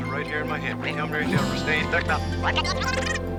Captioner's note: speaking backwards